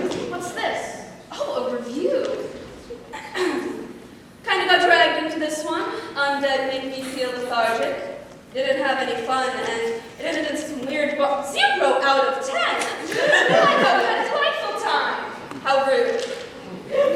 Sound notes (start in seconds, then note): 3.1 clears throat